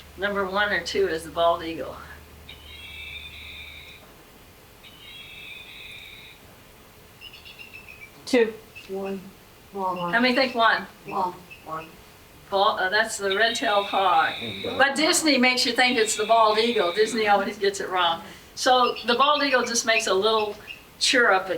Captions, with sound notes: Number one or two is the bald eagle. (crickets chirping) Two. One. How many think one? One. One. That's the red tail paw. But Disney makes you think it's the bald eagle. Disney always gets it wrong. So the bald eagle just makes a little cheer up,